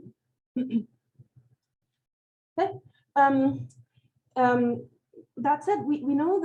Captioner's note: clears throat